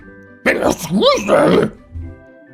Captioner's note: scooby noises